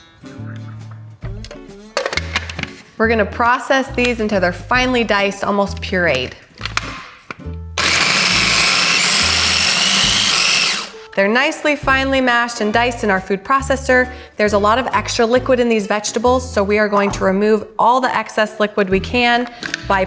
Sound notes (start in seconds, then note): 7.8 blender whirs